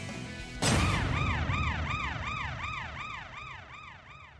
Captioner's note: siren rings